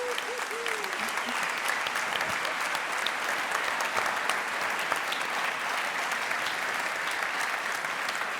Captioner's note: applause